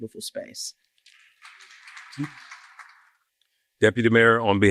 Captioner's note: applause